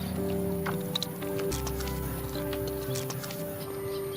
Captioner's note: slicing